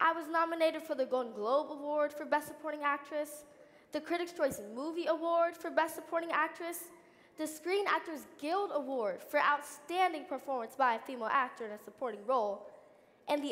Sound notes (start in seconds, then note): none